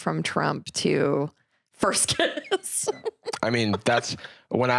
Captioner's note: laughs